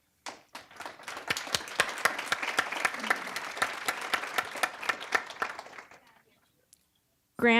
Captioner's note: applause